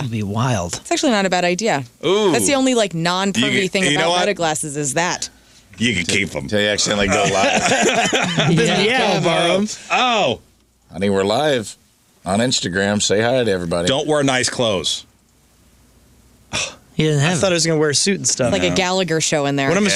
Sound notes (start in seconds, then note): 6.8 laughing